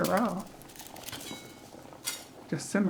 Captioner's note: the sound of putting the pasta in the pan